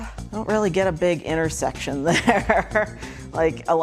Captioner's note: laughing